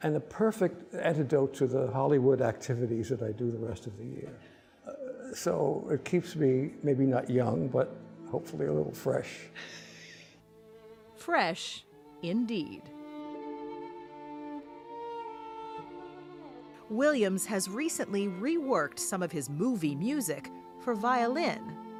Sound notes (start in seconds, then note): 9.6 laughs; 13.4 music: motion picture score